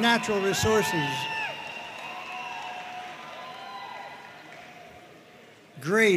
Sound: audience cheering and applauding

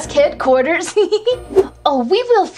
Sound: Catboy Laughs

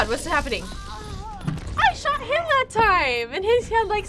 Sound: Mercy groans

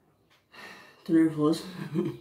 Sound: sigh; giggle

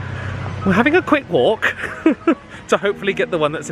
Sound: chuckles

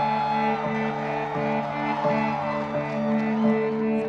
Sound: crowd cheers

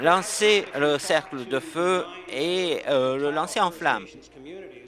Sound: applause

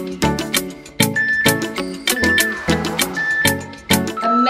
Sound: timer beeping

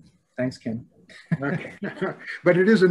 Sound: laughing

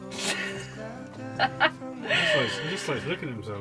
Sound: laughing

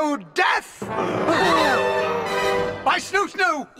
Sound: gasps

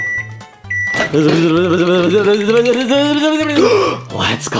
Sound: microwave beeping; Junior imitates buzzing; gasps

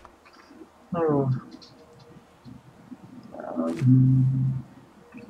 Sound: hums

